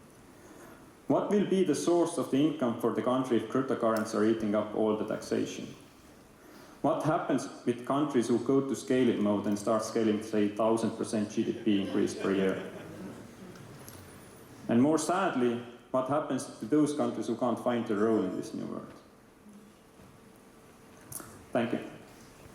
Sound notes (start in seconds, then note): 11.8 laughter